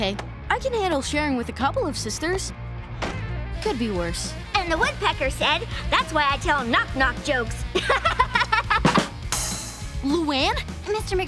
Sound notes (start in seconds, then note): 7.7 laughing; 8.6 bad-dum-tss